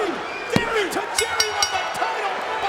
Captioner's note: bell rings